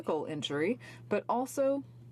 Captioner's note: speaking french